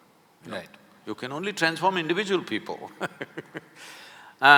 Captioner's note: laughs